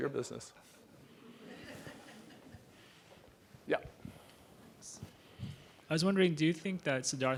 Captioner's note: laugh